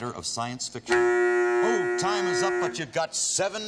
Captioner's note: timer buzzes